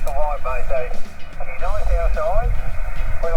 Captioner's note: radio chatter